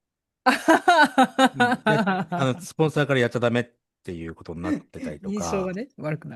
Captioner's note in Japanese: 笑い